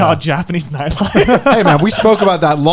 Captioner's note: laughing